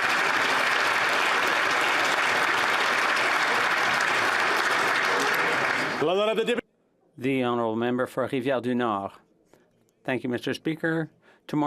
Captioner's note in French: applaudissements